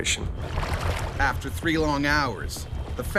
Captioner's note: voiceover